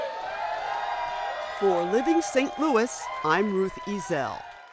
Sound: audience cheering

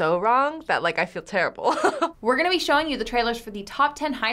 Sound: chuckles

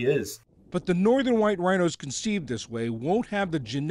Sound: voice-over

